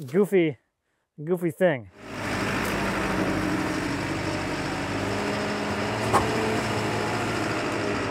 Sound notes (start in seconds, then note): 3.6 telehandler engine rumbling